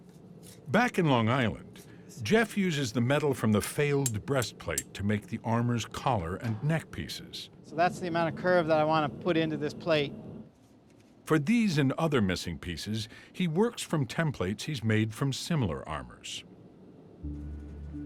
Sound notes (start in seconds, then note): none